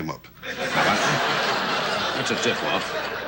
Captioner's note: audience laughs